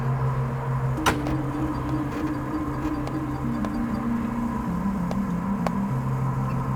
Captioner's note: RV engine humming; gentle synth music